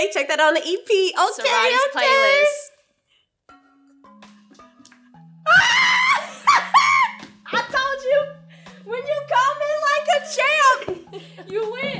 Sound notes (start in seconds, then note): 5.5 screams